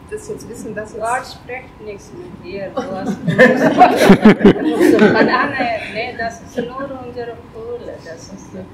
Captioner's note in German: lachen